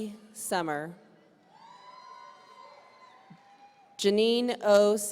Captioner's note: audience cheering